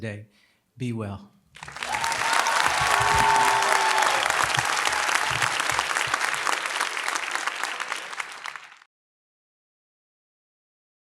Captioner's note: applause